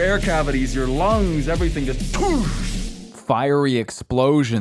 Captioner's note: mimics explosion